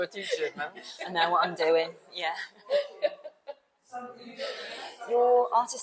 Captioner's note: laughs